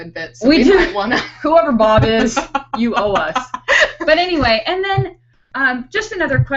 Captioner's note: laughing